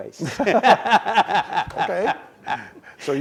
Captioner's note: chuckles